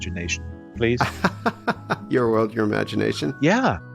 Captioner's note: laughter